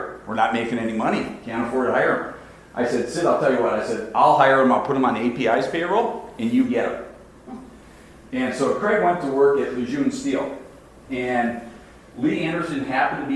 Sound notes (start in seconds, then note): none